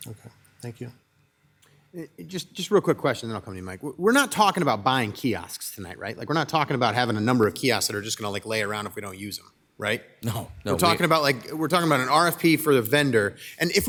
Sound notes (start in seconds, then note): 10.5 laughs